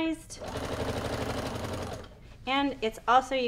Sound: machine whirs

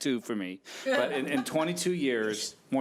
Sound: audience laughing

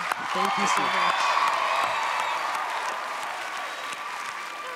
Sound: cheering

